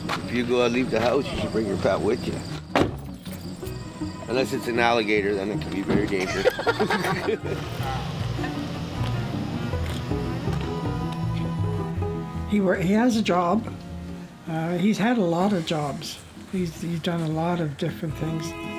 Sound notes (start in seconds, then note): 6.0 laughing